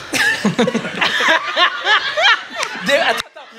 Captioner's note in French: rires